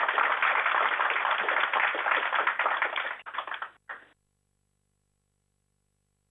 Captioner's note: applause